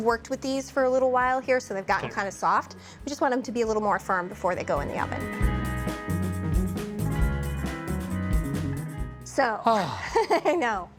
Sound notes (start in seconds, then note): 9.7 sighs; 9.8 chuckling